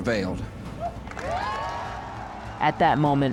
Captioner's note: crowd cheering and applauding